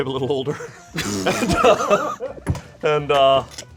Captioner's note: group laughs